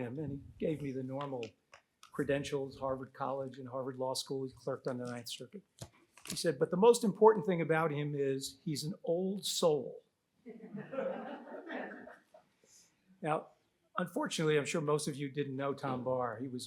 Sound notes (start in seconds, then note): 10.6 audience laughs